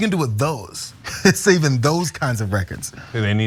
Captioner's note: laugh